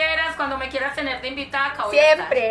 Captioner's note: laughs